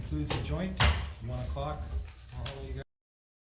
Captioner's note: gavel bangs